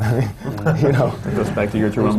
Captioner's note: laughter